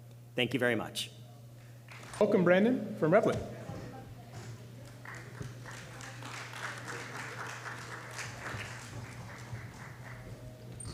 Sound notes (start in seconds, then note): 4.8 applause